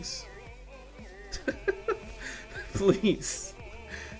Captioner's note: laugh